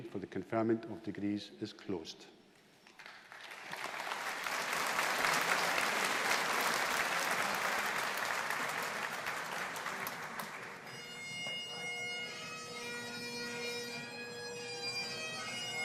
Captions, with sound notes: for the conferment of degrees is closed. (AUDIENCE APPLAUDING) (BAGPIPES PLAYING)